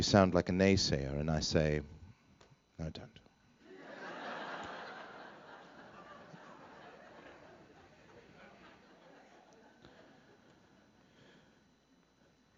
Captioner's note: laughter